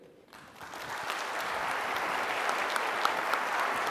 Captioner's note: applause